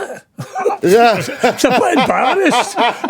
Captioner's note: laughing